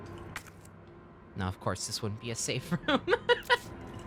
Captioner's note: laughs